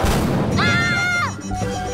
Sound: screaming

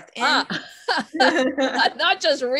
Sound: laughing

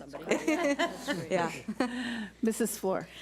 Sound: board laughs

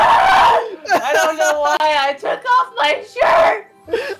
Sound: laughing again

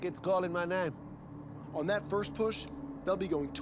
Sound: voiceover

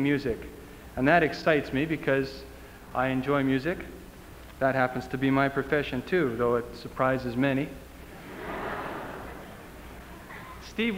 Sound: laughter

